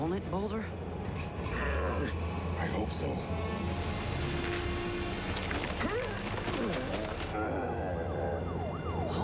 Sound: grunt; grunting; sirens wail

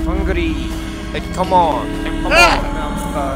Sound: echoes

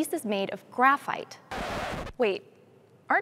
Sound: record scratch

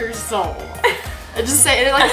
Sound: laughs

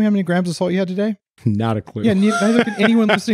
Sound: laughs

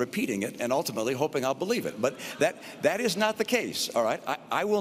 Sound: scattered laughter

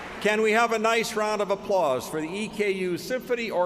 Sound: applause

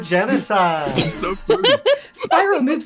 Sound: laughter

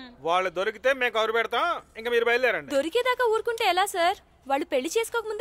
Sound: none

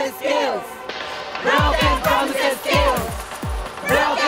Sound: chanting

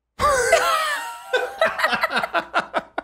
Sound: laughter

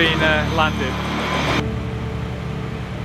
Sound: engine whirring

